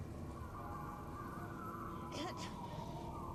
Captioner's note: wind whistling